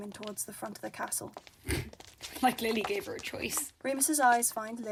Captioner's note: Marlene snorts